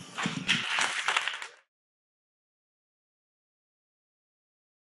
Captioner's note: audience clapping